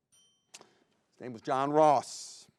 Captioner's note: bell rings